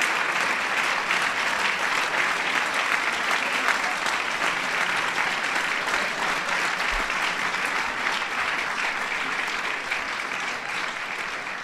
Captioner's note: applause